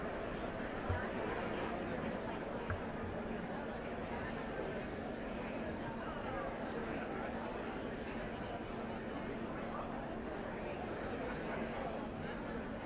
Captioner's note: indistinct chatter